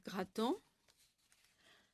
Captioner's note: speaking French